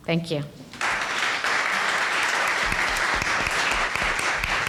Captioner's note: applauding